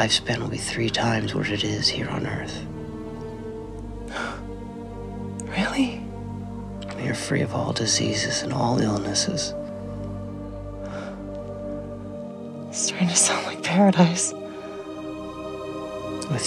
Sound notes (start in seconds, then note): 10.7 sighing